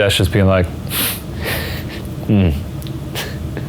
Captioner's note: scoffs